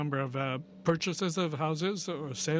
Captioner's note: speaking french